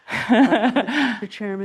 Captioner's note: laughs